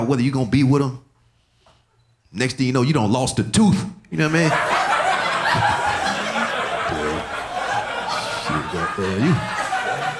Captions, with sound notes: whether you're gonna be with them. Next thing you know, you done lost a tooth, you know what I mean? (audience laughing)